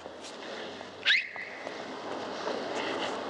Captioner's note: whistles